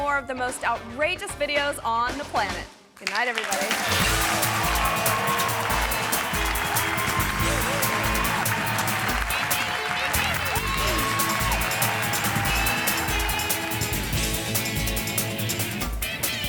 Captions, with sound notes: with more of the most outrageous videos on the planet. Goodnight, everybody. (audience cheering and clapping) (energetic music)